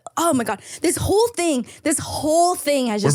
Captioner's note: none